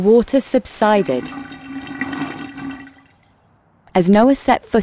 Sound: drain gurgling

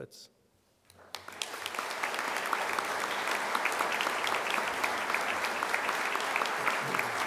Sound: applause

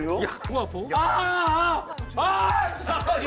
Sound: screaming

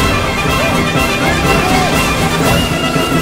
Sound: Ally's Screaming

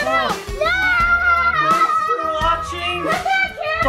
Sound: screaming

